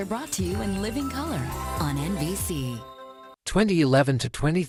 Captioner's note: NBC chimes plays